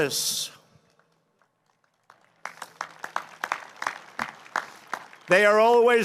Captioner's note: applause